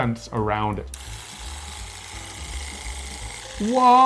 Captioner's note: device clicking